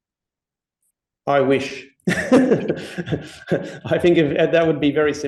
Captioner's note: chuckles